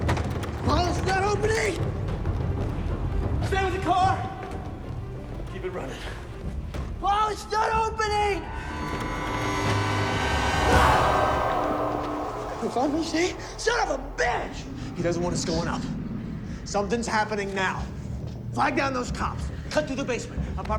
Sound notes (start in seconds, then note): 0.0 intense dramatic music; 0.2 door latch jangling; 9.7 sinister music; 11.0 Simon screams